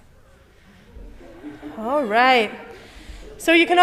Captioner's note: excited laughter from congregation